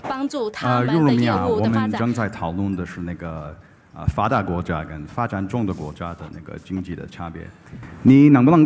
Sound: speaking in Chinese

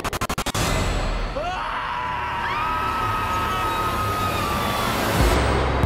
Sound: screaming

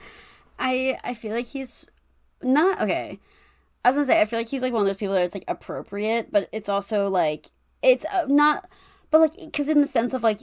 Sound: stammers

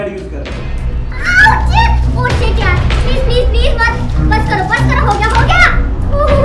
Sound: screams

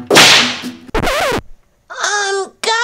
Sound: slam; record scratch

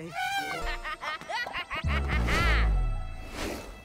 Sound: evil laugh

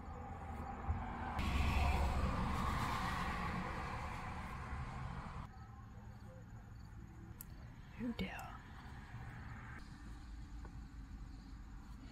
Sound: in British

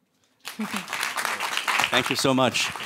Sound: applause

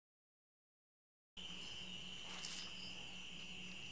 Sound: crickets chirping

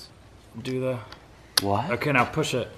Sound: click

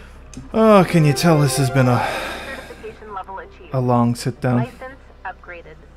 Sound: sigh; deep breath

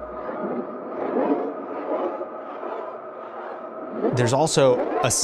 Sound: eerie echoes

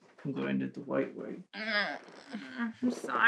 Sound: Mickey groans

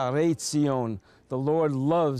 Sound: speaking Hebrew

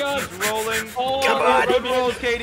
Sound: yelling

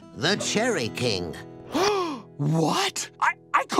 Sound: gasping

